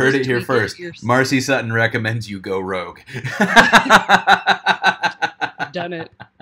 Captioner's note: laughing